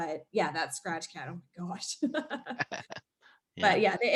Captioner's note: laughing